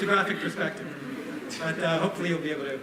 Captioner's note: laughter